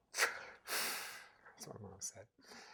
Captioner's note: inhales, exhales loudly